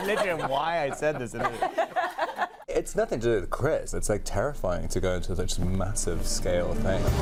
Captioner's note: laughter